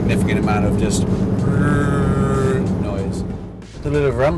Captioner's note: imitates rumble